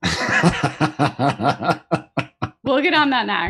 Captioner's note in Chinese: 笑声